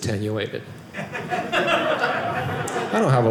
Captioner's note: audience laughing